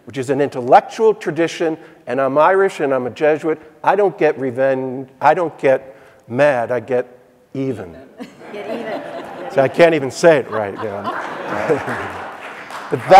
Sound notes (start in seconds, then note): 8.0 audience laughing; 11.0 audience applauding